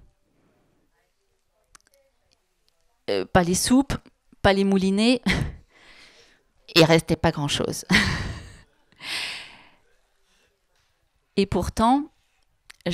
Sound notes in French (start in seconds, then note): 7.8 elle rit